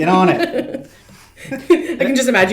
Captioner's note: chuckles